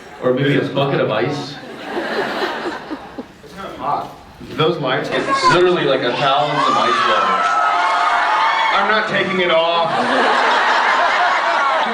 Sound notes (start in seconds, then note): 1.7 scattered laughs; 6.1 cheers; 10.1 laughs